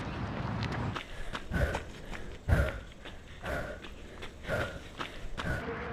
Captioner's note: heavy breathing